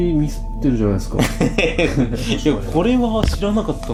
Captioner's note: laughter